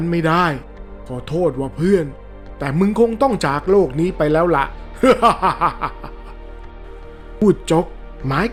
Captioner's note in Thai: เสียงหัวเราะ